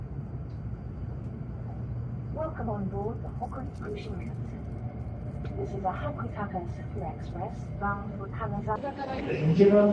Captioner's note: laughs